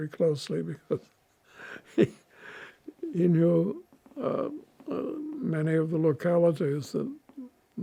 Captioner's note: laughing